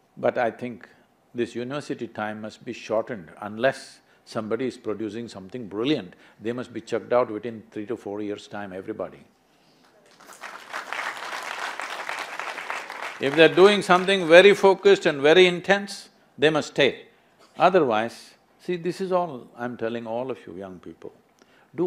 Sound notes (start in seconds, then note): 9.9 applause